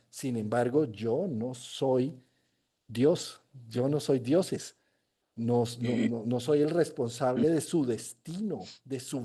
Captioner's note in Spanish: carraspeo; resoplido